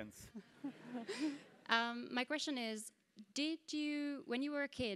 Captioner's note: laugh